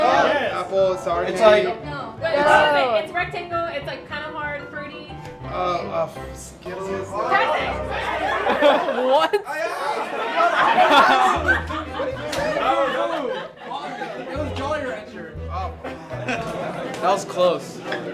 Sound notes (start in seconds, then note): 6.9 shouting over each other; 10.1 laughing